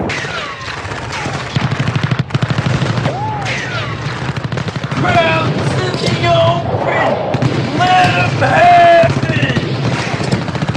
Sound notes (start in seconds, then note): 0.0 explosion; 0.2 bullets firing; 7.5 guns firing